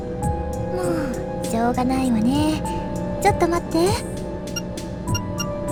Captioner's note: sigh